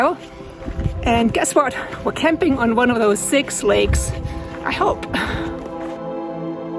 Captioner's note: laughs